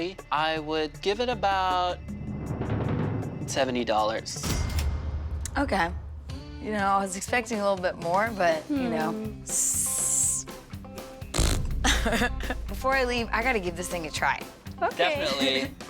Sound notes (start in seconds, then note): 9.6 hissing to mimmick a snake; 11.3 spluttering; 11.8 laughing